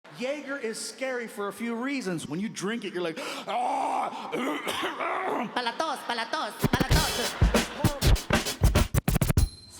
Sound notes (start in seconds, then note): 3.6 groans and coughs; 5.7 speaking in foreign language; 6.6 energetic instrumental music